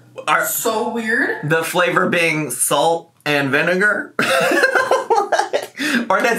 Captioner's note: laughs